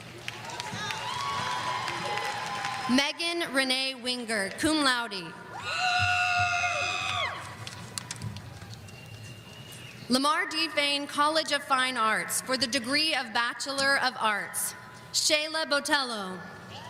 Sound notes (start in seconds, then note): 0.1 audience applauding; 5.5 audience screaming